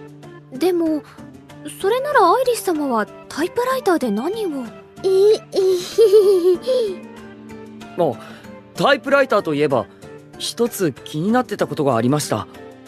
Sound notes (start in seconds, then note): 5.6 nervous laughter